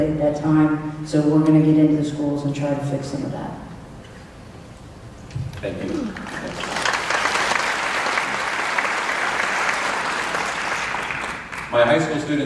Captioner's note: clapping